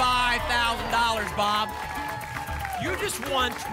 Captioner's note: applause and cheering